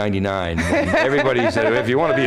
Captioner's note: laughter